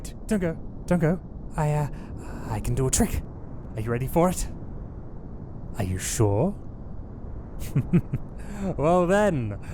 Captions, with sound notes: Don't go! I-I can do a trick! Are you ready for it?? Are you sure? :D *Ominous laughter* Well then-